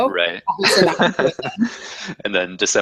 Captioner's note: laugh